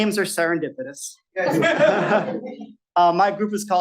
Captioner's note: laughter